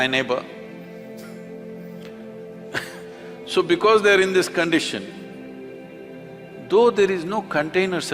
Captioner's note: laughs